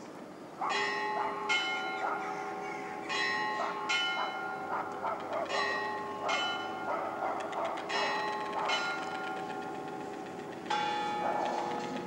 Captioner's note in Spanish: campanadas. ruido de la calle